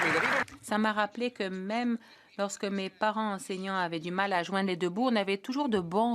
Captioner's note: applause